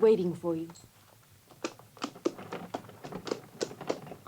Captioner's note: hooves clopping